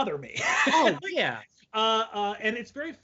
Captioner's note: laughing loudly